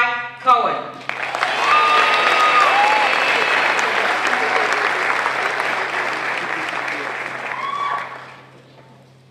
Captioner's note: applause